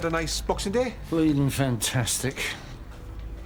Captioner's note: sarcastically